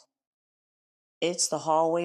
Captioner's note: pause